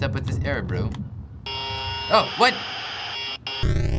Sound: in game: buzzing static

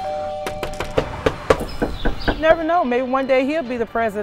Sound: doorbell; knocking

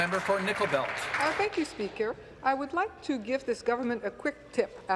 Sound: some applause

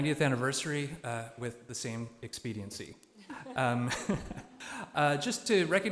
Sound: laughs

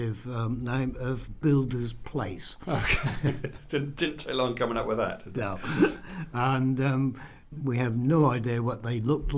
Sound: laughs

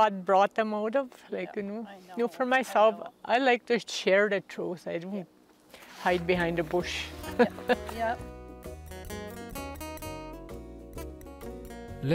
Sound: laughs

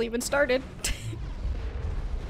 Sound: laughs

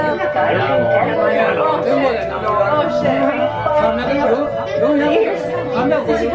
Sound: people speaking in foreign language

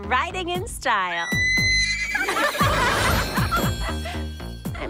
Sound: all laugh

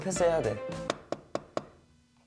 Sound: knock knock

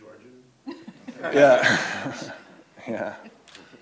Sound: laughs

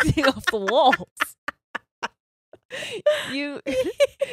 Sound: both laughing

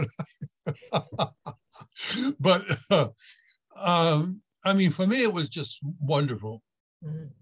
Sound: laughs

